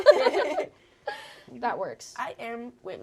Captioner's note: all laughing